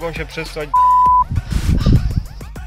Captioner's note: beep